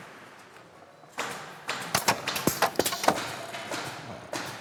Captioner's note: distant hammering, clacking